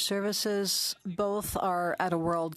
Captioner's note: speaking French